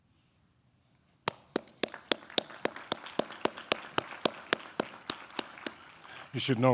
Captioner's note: audience applauding